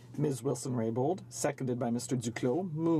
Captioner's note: speaking French